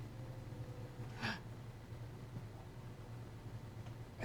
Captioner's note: gasps